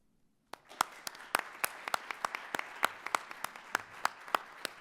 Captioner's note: audience applauds